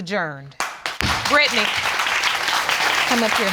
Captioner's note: audience applauding